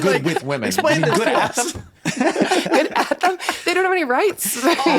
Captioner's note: everyone chatting